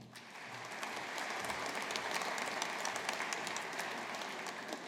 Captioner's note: audience applauding